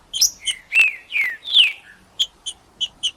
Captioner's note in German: trinca ferro cantando